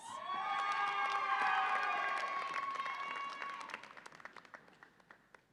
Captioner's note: audience applauds and cheers